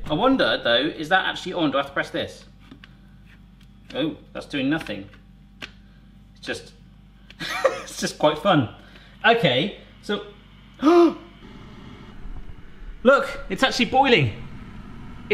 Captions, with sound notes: I wonder though, is that actually on, do I have to press this? Oh, that's doing nothing. It's just, (laughs) it's just quite fun. Okay, so, (gasps). Look, it's actually boiling.